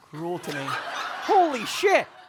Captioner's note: audience laughing